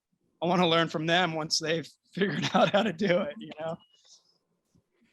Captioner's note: laughter